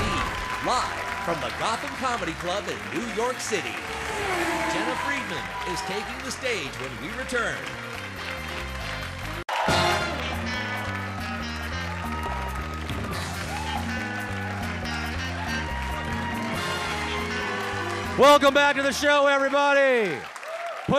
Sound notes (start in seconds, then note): 2.8 race car zooms; 9.7 audience applauds; 10.5 brassy upbeat music